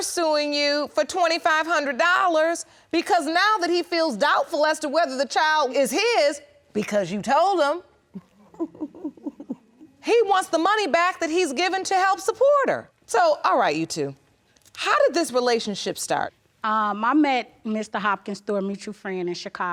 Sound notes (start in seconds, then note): 8.1 chuckles